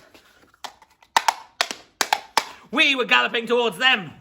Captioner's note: clip clop clip clop